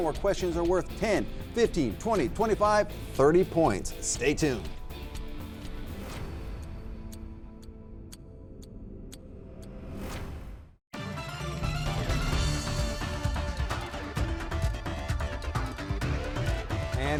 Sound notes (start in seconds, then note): 4.8 clock ticking; 10.9 upbeat music